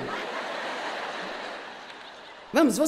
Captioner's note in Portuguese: público rindo